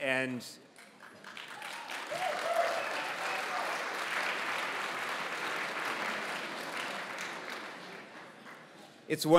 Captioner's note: applause